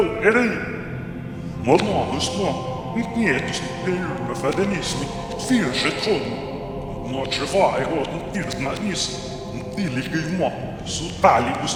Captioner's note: spoken backwards